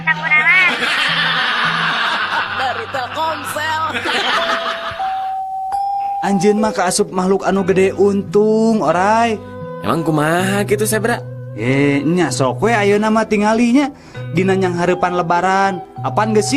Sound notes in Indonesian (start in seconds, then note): 4.7 tertawa